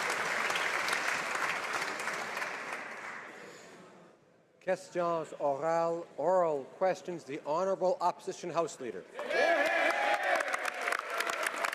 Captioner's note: some Applause